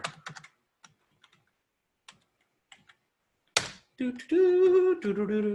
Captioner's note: keyboard tapping